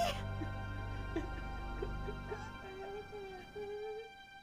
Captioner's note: both sobbing